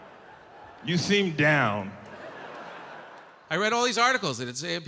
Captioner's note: audience laughing